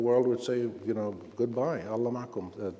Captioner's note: speaking Arabic